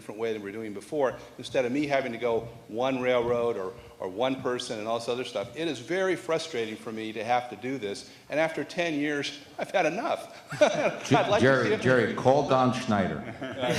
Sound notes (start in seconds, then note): 10.4 laughs